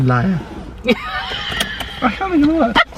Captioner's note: laughs